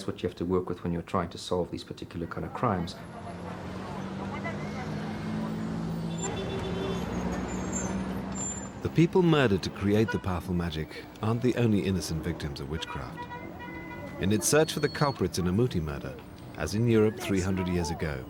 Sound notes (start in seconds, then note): 5.7 traffic sounds